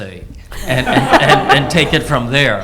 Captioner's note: laughs